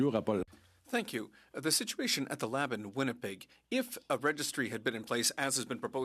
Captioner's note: speaking French